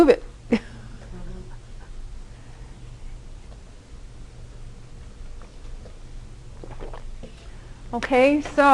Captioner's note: laughter